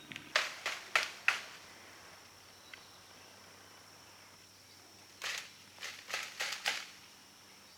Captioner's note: sounds of bird call and shaking tree branches